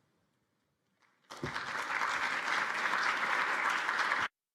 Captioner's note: applause